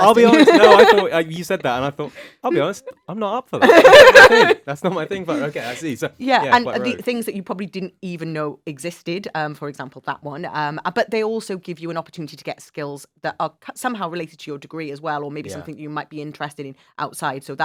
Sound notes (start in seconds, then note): 3.6 laugh